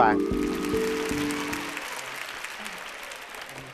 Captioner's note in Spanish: aplausos